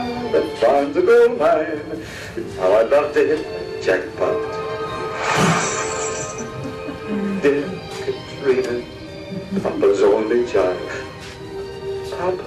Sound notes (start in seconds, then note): 5.1 clinking